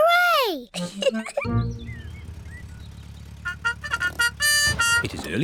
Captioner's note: car horn